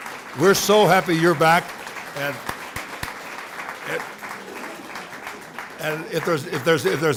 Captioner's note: applause